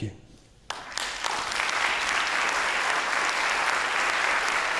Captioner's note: attendees applauding